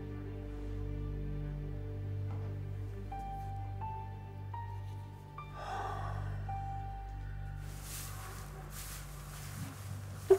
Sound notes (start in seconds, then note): 3.2 soft emotional music; 5.5 Josiah sighs